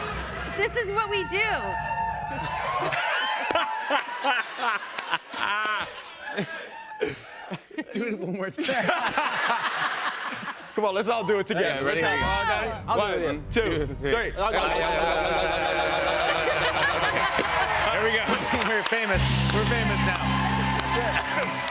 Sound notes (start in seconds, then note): 0.0 drumroll; 2.1 laughter and cheering; 8.5 laughter; 17.8 cheers and applause